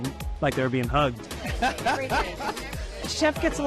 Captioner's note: laughs